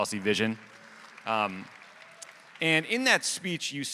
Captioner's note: audience applauding